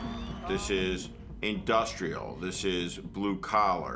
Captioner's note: crowd continues to cheer